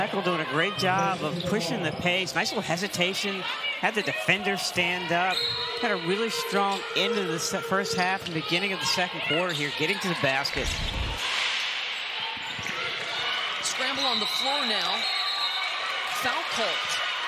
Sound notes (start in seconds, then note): 5.1 crowd noise